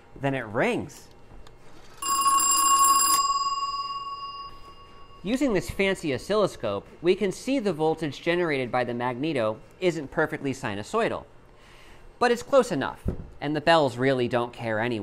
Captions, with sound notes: then it rings! [ringing sound] Using this fancy oscilloscope, we can see the voltage generated by the magneto isn't perfectly sinusoidal. But it's close enough, and the bells really don't care anyway,